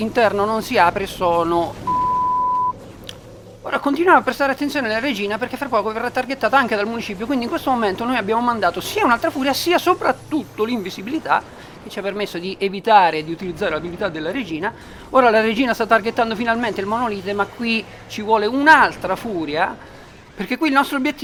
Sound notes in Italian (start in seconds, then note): 1.8 beep